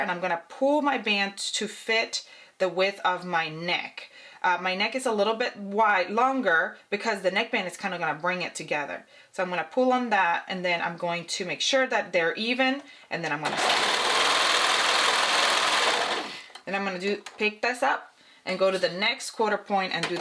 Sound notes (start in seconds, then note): 13.4 sewing machine whirring